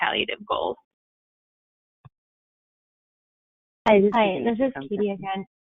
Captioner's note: chatter